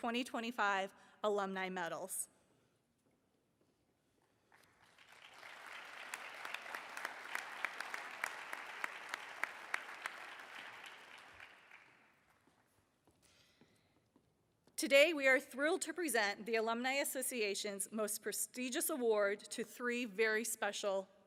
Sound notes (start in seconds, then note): 8.0 applause